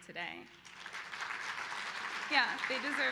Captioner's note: applause